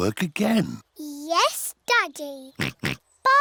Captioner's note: oinks